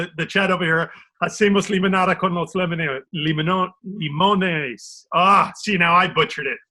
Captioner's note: speaking in foreign language